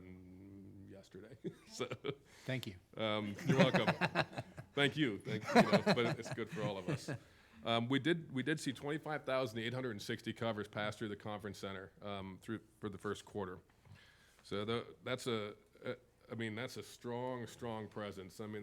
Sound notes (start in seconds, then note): 3.3 chuckles; 5.2 laughs